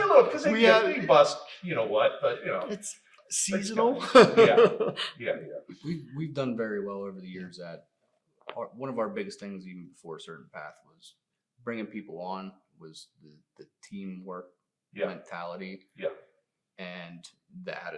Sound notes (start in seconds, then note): 3.7 laughs